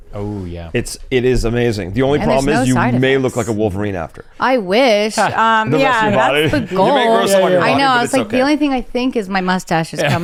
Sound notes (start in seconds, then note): 6.3 chuckles; 10.0 laughs